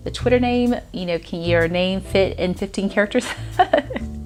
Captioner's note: giggles